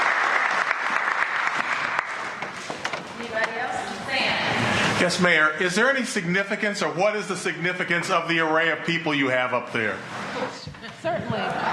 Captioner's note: applause